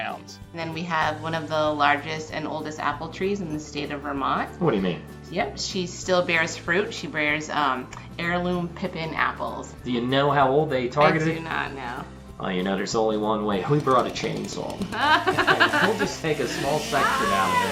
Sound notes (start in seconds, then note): 13.6 chainsaw revs as laughs